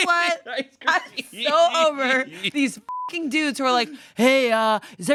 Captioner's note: beep